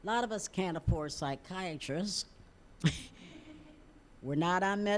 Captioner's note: audience chuckling